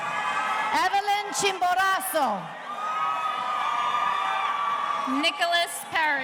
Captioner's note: audience cheering